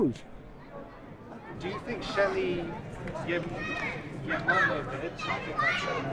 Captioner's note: voiceover